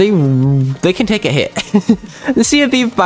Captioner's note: more laughter